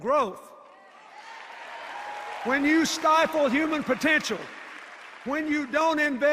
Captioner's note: applause and cheers